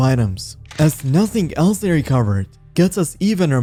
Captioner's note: camera shutter